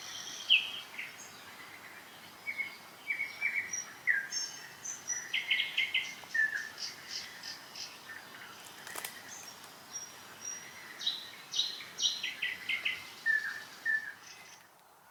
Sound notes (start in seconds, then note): 8.6 branches snapping